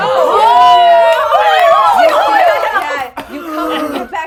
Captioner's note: everyone cheering